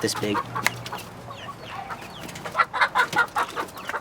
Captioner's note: chickens clucking